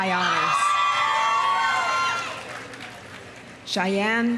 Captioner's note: audience cheering; audience applauding